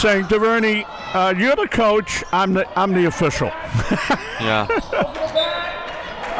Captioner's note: laughs